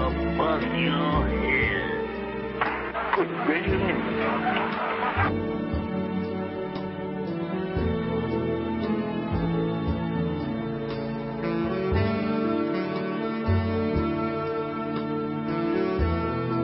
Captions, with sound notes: - I'll bust your head. (hand slaps face) - Good gracious me. (audience laughing) (somber music continues)